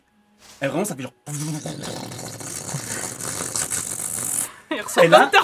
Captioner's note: vibrating sound